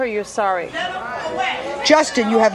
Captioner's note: audience hollering